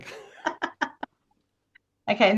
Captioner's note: laughs